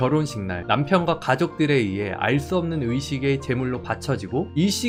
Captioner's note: voiceover